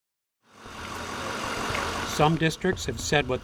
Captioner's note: truck engine roaring